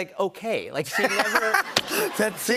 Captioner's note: laughter